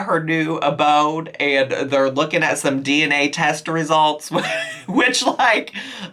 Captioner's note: laughs